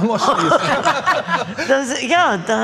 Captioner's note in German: Lachen